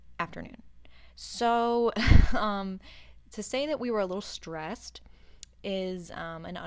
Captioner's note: chuckles softly